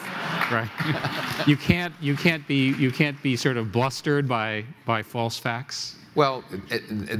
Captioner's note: applause; laughter